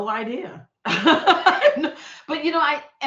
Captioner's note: laughing